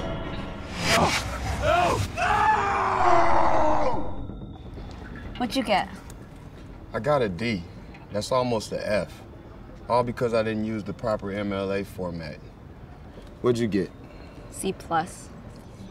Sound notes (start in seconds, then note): 1.6 screaming